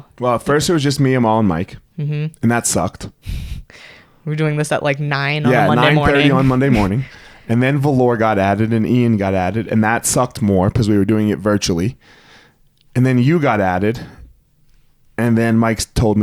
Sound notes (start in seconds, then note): 5.4 laughs